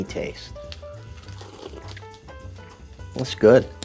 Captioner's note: slurping